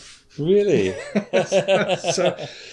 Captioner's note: laughs